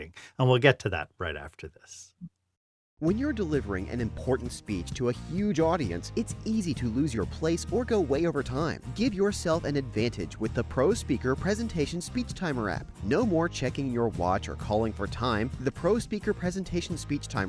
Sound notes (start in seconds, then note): 2.9 voiceover